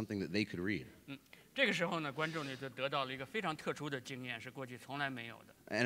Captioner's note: speaking in Chinese